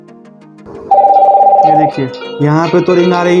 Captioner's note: call tone